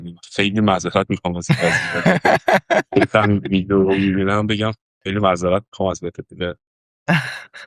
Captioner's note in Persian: خنده